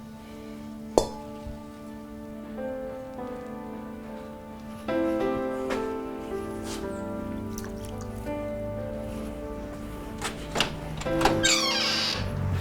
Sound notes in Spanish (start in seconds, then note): 1.0 vidrio se golpea; 2.1 música suave de piano; 7.5 agua sale de canilla; 10.1 chirrido puerta de metal